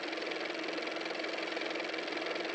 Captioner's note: car motor